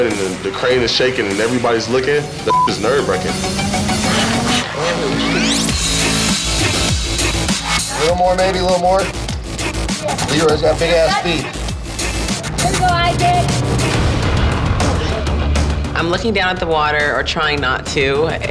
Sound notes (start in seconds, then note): 2.4 beep